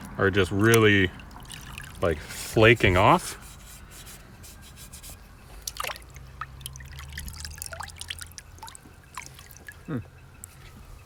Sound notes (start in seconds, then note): 4.0 finger rubbing; 4.0 vinegar splashing